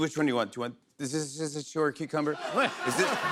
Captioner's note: laughter